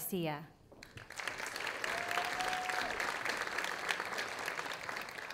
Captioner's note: audience applauding